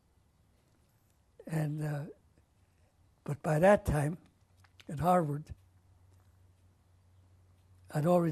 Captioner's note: pauses for 3 seconds